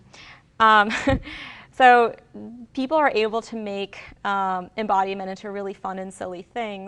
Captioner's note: chuckles